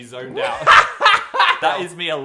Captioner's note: Dan laughing